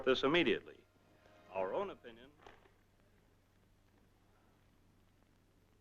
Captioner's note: radio dies out